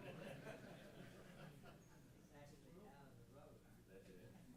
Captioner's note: chuckling